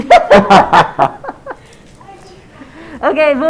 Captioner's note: woman laughs